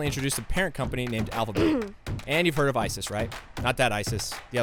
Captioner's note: cough